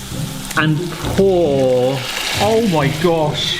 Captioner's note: pan sizzling